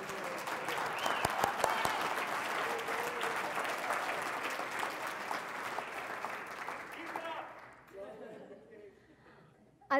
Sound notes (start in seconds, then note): 0.0 applause; 8.0 laugh